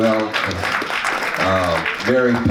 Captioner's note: audience claps